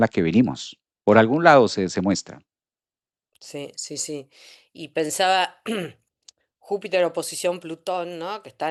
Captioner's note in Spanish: carraspeo